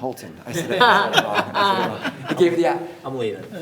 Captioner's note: everyone laughs